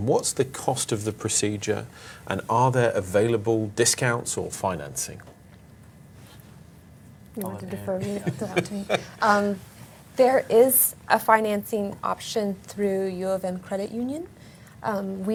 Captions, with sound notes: What's the cost of the procedure and are there available discounts or financing? - You want to defer (all laughing) that out to me. There is a financing option through UofM Credit Union.